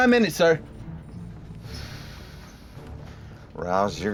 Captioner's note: exhale